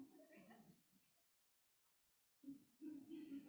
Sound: group laughs

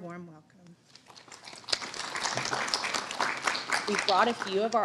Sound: audience clapping

